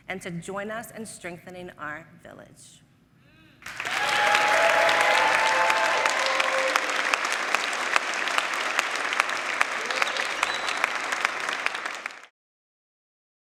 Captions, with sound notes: and to join us in strengthening our village. [audience applauding]